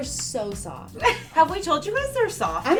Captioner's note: laughs